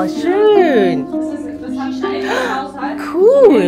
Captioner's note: speaking German